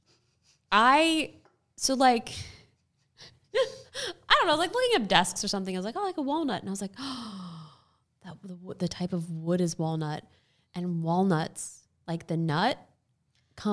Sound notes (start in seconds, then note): 2.7 laughing